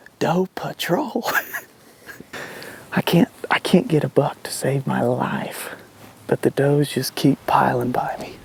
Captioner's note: laughter